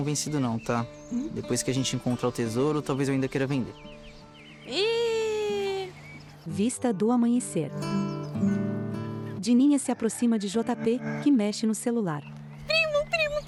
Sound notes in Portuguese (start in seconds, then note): 4.9 Pássaros; 9.9 Galo cantando